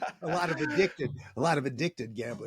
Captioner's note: laughter